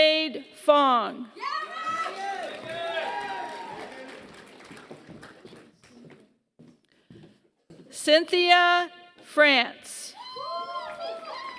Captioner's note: applause; applause